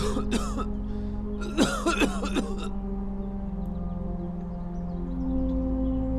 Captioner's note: Chris coughing